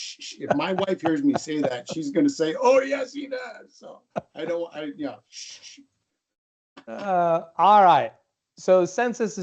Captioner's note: shhh shhhh; shh shh